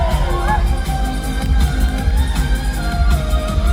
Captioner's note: audience Cheers